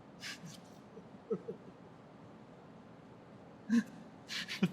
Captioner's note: Michael chuckling